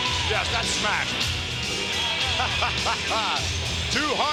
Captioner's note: laughs